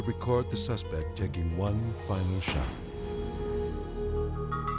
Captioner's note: gunshot popping; sad music